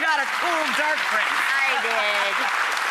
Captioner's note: crowd cheers